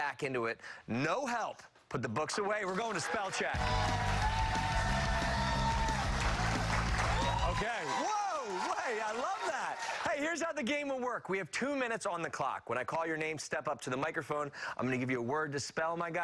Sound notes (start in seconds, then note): 10.6 cheers and applause